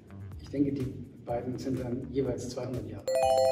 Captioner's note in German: Richtige-Antwort-Klingeln ertönt